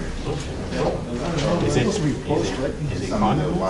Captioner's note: classroom chatter